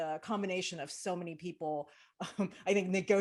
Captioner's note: chuckles